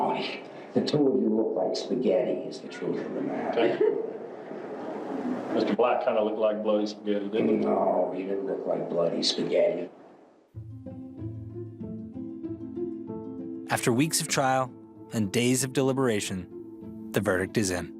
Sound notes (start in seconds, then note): 3.5 laughter; 10.6 intriguing music plays